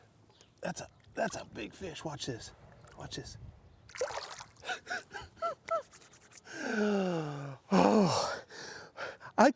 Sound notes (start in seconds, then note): 4.6 chuckles